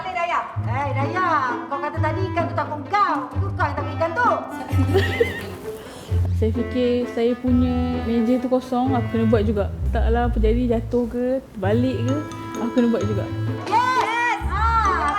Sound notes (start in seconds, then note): 4.5 laugh